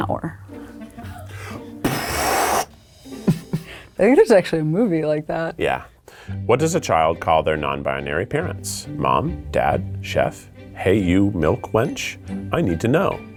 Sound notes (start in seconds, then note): 0.1 playful orchestral music; 3.2 laughing